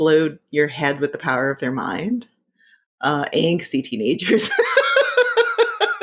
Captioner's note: laughing